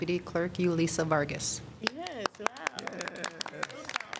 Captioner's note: applause